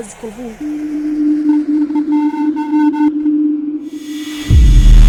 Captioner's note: spaceship going to lightspeed; spaceship landing